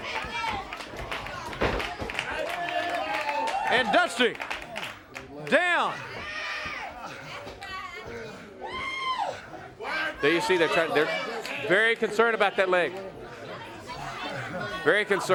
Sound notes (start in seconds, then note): 3.5 crowd chatter; 6.1 crowd chatter